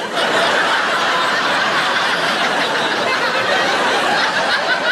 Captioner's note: audience laughing